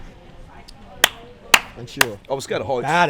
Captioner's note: claps